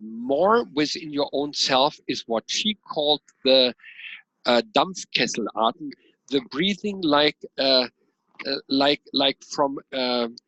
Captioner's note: German